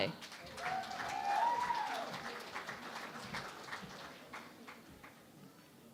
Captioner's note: cheering and Applause